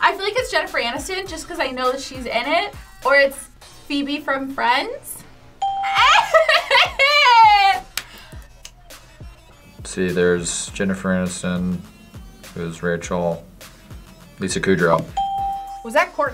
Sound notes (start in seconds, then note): 5.6 bell rings; 5.8 laughs; 15.1 bell rings